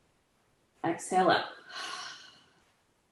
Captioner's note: exhales